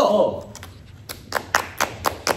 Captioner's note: clap